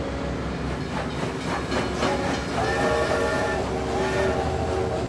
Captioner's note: train whistling